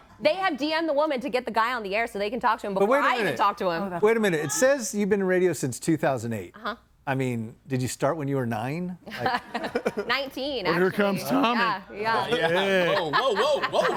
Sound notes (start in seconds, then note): 9.1 group laughs